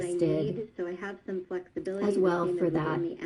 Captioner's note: other video playing in background